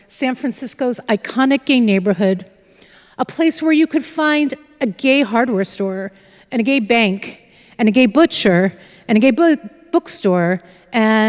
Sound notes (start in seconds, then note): none